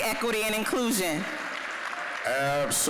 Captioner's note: applause